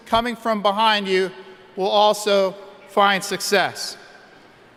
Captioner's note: none